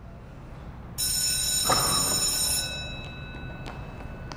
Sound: bell rings

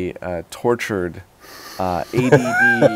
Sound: laughs

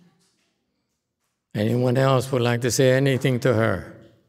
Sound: audience claps

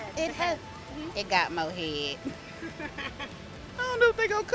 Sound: laughs

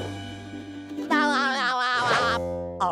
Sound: laughing

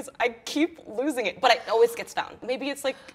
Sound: gasps

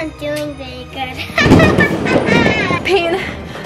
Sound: evil laugh

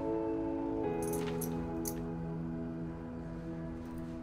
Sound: keys jangling

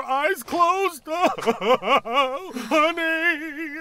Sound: sobbing

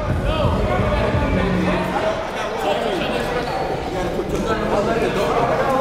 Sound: gymnasium bustles loudly

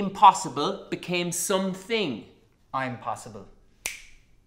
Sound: fingers snapping

